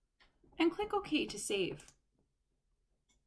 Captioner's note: click